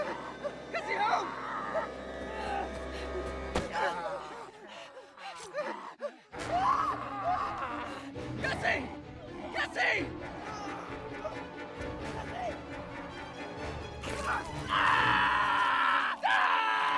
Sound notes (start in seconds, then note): 3.8 gurgling; 6.4 screaming; 14.1 screaming